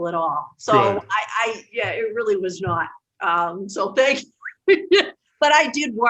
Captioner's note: laughs